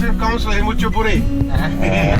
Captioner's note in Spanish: risas